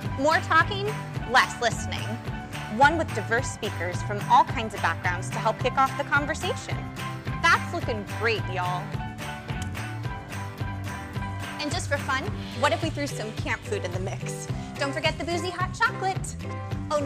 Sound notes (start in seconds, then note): none